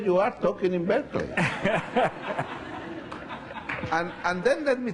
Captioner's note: laughing